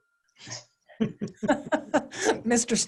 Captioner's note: panelists laughing